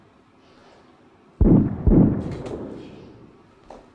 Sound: gun shots

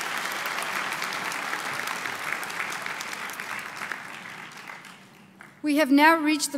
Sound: applause

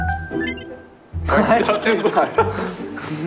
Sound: laughter

